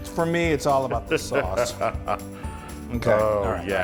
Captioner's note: laugh